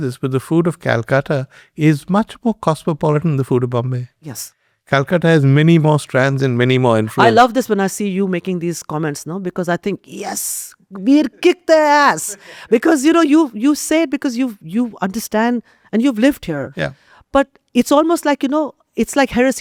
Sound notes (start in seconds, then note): 11.0 laughs